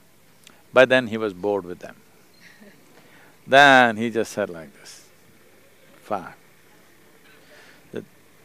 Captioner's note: laughs